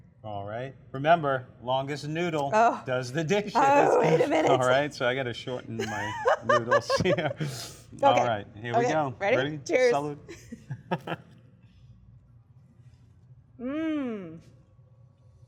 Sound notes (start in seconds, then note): 7.3 laughs; 10.9 laughs